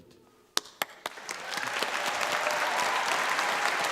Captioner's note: cheering and clapping